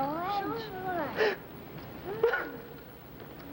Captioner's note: crying